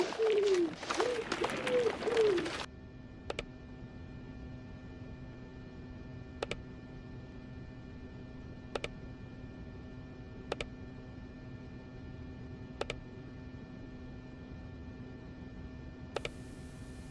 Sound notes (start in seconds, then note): 2.7 mouse clicking